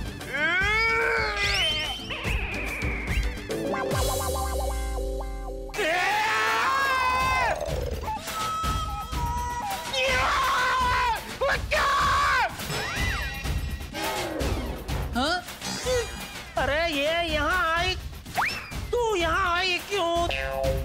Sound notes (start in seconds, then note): 9.8 screaming